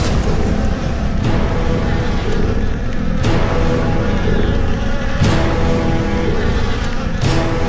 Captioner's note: flies buzzing